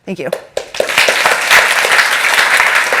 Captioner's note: applause